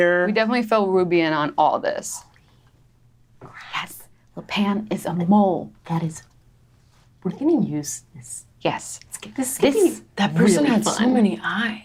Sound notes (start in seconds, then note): none